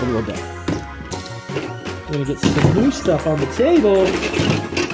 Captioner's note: tools banging on table